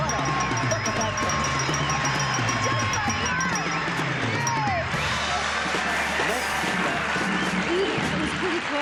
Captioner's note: applause